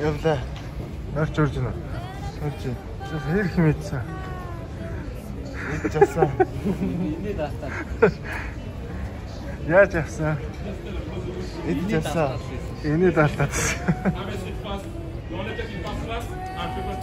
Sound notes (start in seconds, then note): 5.5 laughs; 13.4 laughs